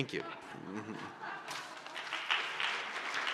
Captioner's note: laughter, applause